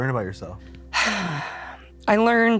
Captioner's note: Lindsey sighs